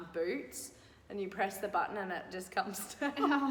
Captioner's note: laughing